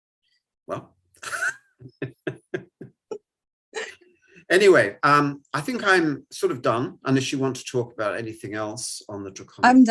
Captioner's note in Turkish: Kahkahalar